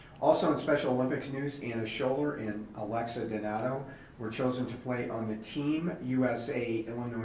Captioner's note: none